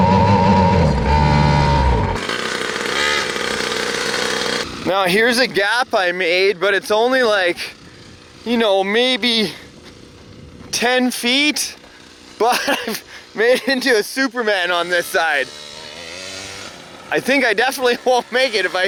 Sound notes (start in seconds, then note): 12.4 laughs